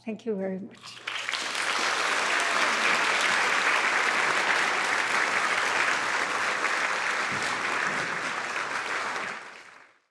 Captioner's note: audience applauding